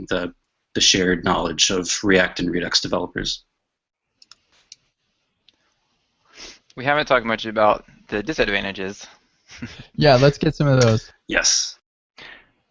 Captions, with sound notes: the shared knowledge of React and Redux developers. - We haven't talked much about the disadvantages. (chuckles) - Yeah, let's get some of those. - Yes.